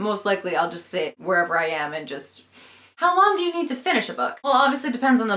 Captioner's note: sniff